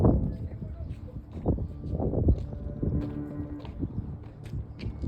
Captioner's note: wind blowing